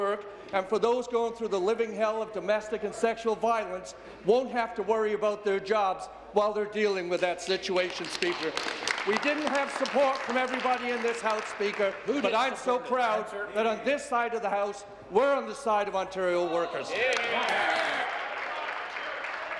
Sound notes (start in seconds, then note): 12.6 applause